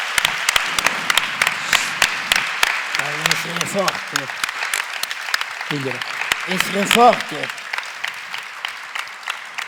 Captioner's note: applause